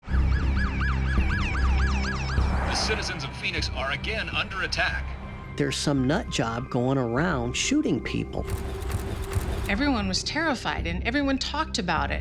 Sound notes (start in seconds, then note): 0.1 siren wailing